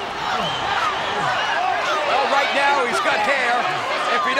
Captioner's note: applause